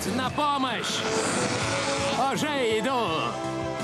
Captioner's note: laughing